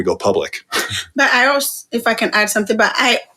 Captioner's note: chuckle